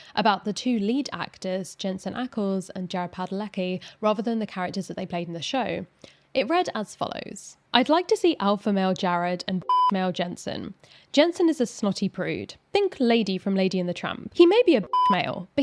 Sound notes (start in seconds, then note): 9.6 beeps; 14.8 beeps